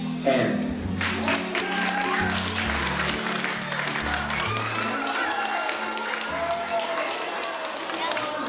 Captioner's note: applause, cheers